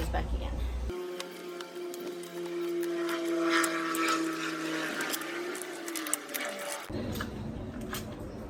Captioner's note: higher-pitched sound of an aeroplane going overhead, sped-up